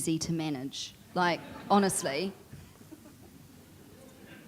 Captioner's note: audience chuckling